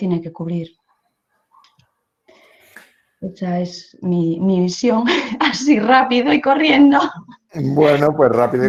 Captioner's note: risas